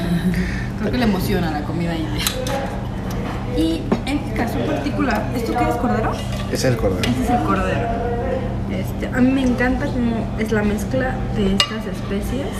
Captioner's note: laugh